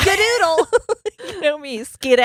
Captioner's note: laughing